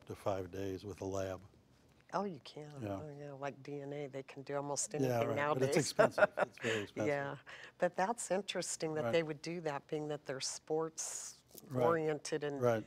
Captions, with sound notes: FOR UP TO FIVE DAYS WITH A LAB. >> OH YOU CAN? >> YEAH. >> LIKE DNA, THEY CAN DO ALMOST ANYTHING NOW. [LAUGHS] >> BUT IT'S EXPENSIVE. >> YEAH, BUT THAT'S INTERESTING THAT THEY WOULD DO THAT BEING THAT THEY'RE SPORTS ORIENTED.